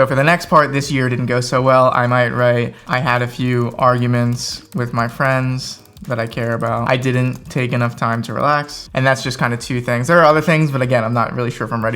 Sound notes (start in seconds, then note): 4.0 fingers typing